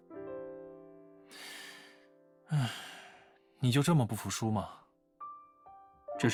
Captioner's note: sighs